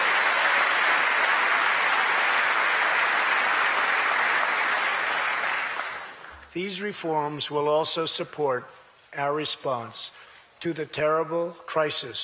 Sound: applause

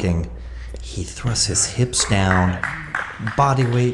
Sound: spectator applauds

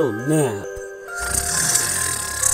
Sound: snores

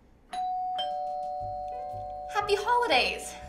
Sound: doorbell

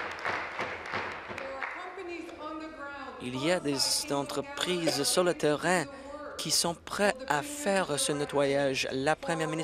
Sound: applause

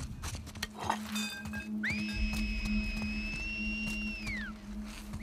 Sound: alert whistle!!!; echoed whistle!!!

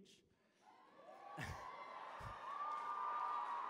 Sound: cheering

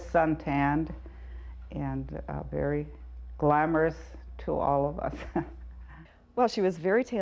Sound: chuckles

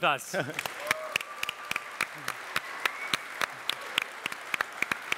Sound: audience cheer and applaud

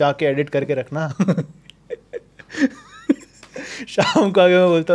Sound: laughing

